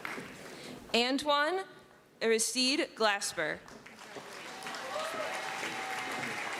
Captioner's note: applause; applause